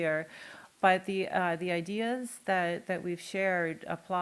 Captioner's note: none